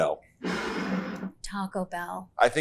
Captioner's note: bottle scrapes